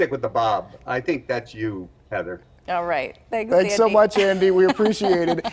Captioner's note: laughter